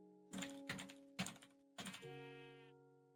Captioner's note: music; typing; sheep bleats